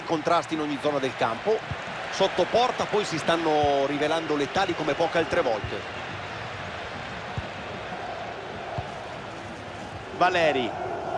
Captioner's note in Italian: Applauso